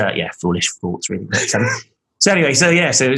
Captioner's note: laughing